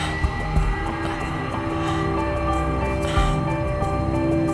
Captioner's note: laughs; Katie gasping